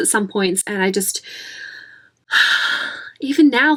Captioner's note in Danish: overvældet suk